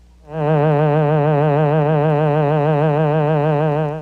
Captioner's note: Green Hornet buzzing sound effect that matches graphic